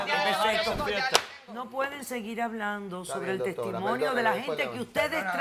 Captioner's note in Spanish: Hablan al unísono